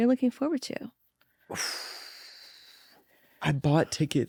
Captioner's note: exhales